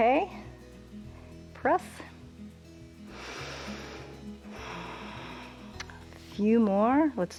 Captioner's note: inhales and exhales